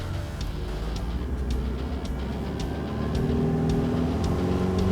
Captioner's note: engine revving; rock music